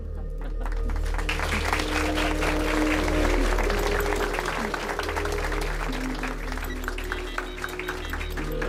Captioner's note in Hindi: तालियाँ